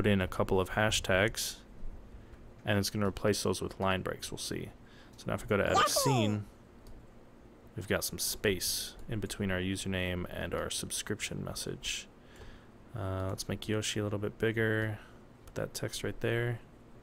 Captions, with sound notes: put in a couple of hashtags and it's going to replace those with line-breaks, we'll see. So now if we go to "Edit Scene" [Yoshi noise] We've got some space in between our username and our subscription message. Let's make Yoshi a little bit bigger, put that text right there.